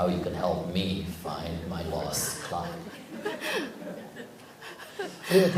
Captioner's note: audience/Questioner Laughter